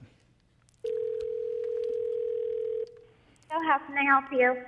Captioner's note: phone ringing